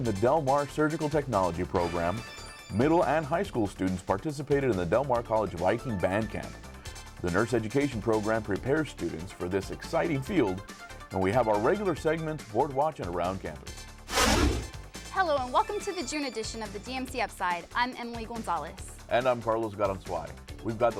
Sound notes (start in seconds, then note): 14.0 deep swooshing